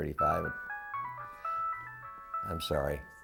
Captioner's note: cell phone interruption